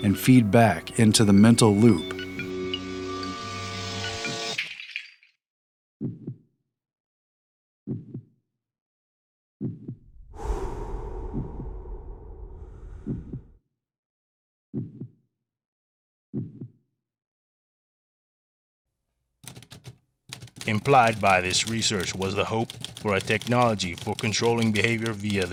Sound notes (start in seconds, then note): 8.5 exhale; 12.8 heartbeat continues; 16.9 typing